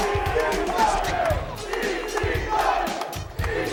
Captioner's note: crowd cheering